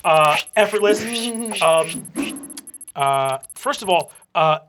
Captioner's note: whooshing